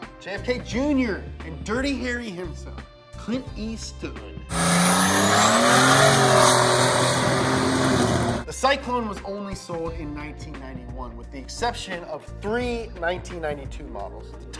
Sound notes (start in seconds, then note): 4.5 engine revving